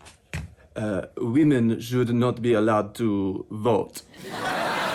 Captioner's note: french accent